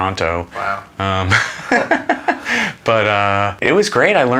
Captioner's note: laughs